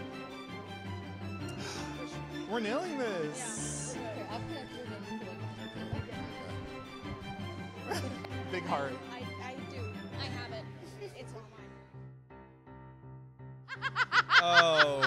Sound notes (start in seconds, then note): 1.7 gasps; 7.8 both laugh; 12.4 gentle music; 13.7 laughs